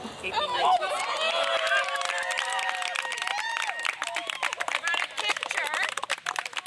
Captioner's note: cheers and applause